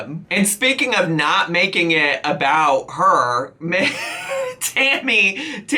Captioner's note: laughs